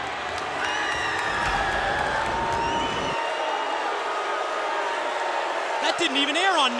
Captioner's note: crowd cheering